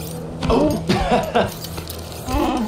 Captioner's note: laughs